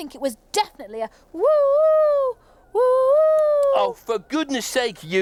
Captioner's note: Tula hooting